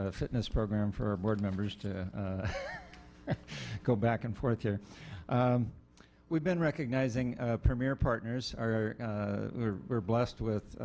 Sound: laughs

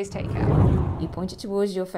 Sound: air swooshing

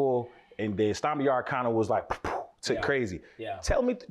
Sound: blows air

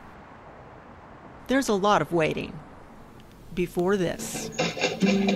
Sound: cage rattles

